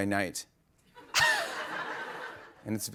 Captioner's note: laughter